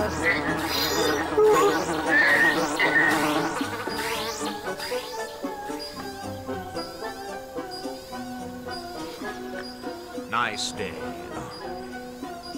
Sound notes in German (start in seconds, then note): 0.0 lautes Summen; 0.1 schnappt nach Luft; 2.2 grunzt; 3.0 lautes Summen; 4.4 Signal ertönt schwach